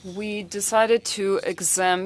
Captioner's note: speaking French